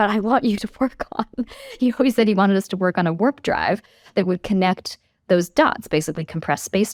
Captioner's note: laugh